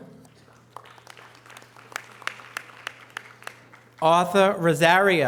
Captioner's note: audience applause